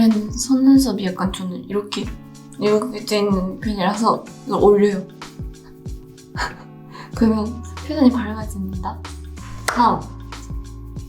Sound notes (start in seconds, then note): 4.6 foreign language continues; 4.6 gentle music continues